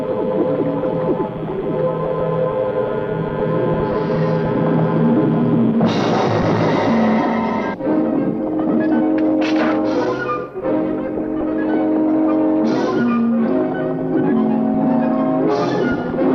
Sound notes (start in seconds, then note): 5.8 ominous music; 9.3 gun firing